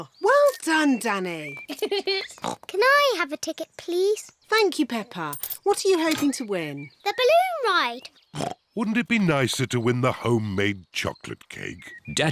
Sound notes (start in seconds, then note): 1.6 giggles; 2.4 oinks; 8.3 oinks